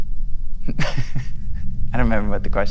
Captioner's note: laughs